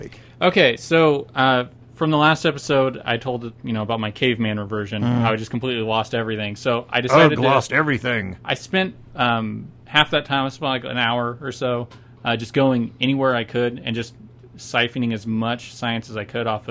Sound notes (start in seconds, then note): 7.0 in caveman voice